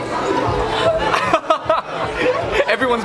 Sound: laughs

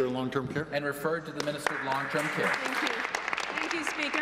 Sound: applause

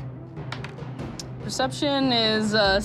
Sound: dice clattering

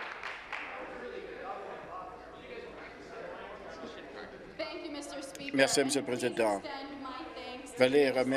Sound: applause

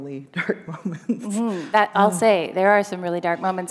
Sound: chuckle

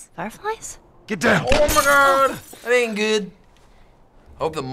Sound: gunshot, window shatters

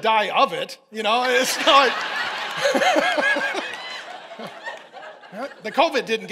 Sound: congregation laughing

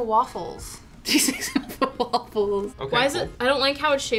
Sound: laughs

